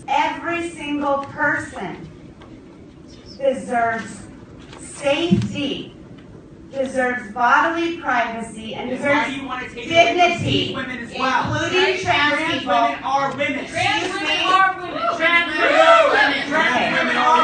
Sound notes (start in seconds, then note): 14.8 cheers